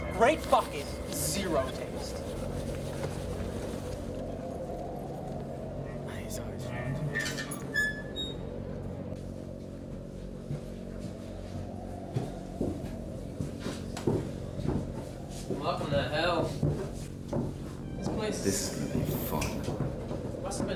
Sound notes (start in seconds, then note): 7.0 door creaks; 10.8 footsteps echoing